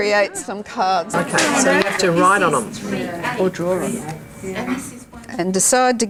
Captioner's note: audience chatter